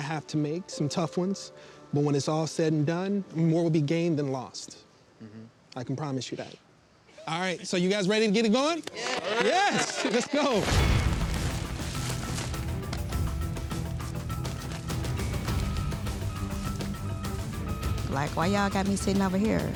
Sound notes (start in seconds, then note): 8.8 clapping; 11.1 dramatic music